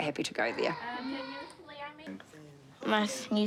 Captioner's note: kids chatter indistinctly